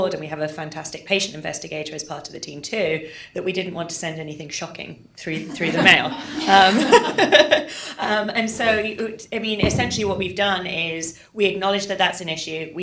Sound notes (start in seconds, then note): 5.5 audience laughs; 5.6 laughs